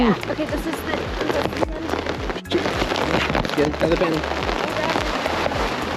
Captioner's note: raindrops tapping